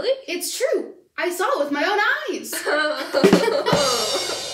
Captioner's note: laughing